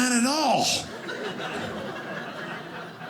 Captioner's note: audience laughing